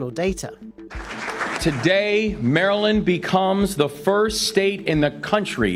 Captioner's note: clapping